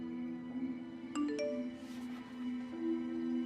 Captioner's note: phone beeps